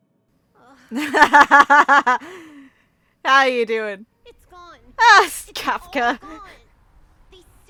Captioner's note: laughs